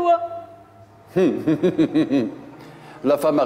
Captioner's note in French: il rit